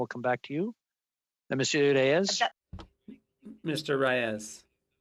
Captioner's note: speaking French